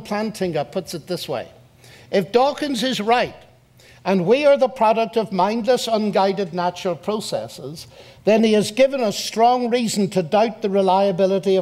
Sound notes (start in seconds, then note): none